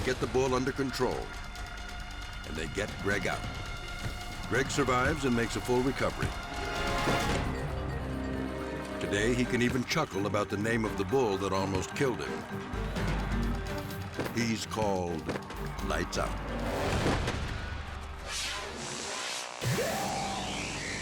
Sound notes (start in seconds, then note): 16.9 thuds; 17.9 air whooshes